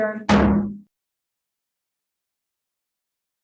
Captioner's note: gavel bangs